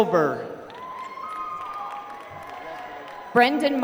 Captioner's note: applause